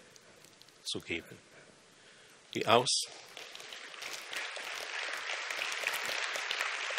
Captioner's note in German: applaus